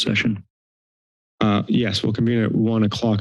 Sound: silence

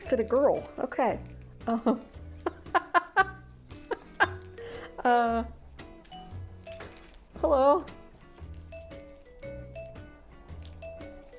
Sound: laughing

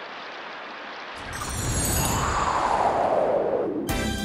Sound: chimes and wind; upbeat instrumental music

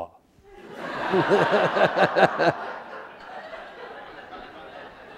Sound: audience laughing

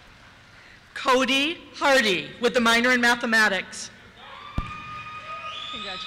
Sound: cheers

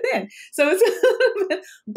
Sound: laughs

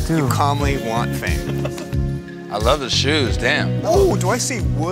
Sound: laugh

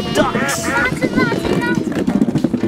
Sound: duck quacks

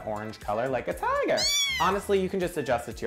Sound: kitten meows

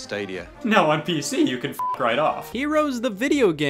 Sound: beep

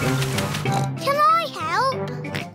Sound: oinks; oinks and giggles

